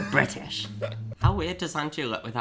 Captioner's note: laughs